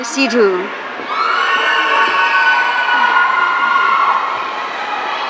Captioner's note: audience cheering